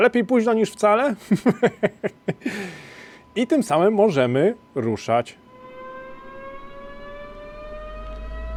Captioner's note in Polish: śmiech